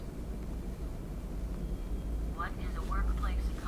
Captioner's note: computer generated audio reading text